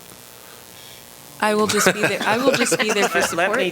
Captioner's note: laughter